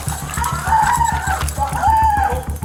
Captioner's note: footsteps pounding; suspect screaming